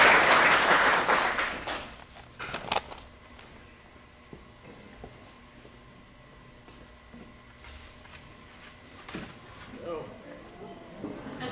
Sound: applause

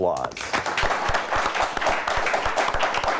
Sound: applause

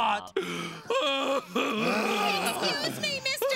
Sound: sobs

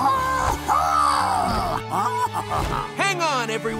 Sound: chuckling

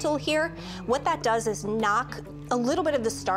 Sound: none

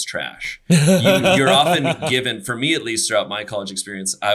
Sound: laughs

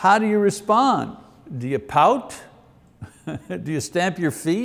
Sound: chuckles

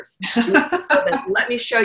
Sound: laughs

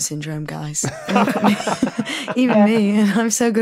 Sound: group laughing

